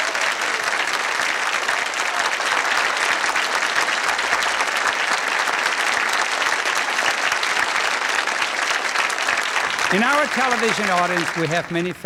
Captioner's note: applause